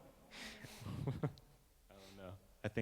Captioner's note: laughing